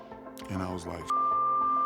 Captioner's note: beep